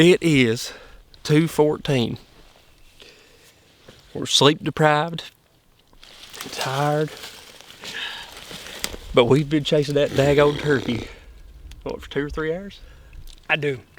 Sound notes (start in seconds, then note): 11.5 blows raspberry